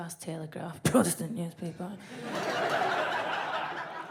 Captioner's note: fake coughs; audience laughs